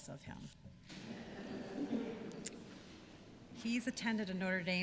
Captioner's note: laughter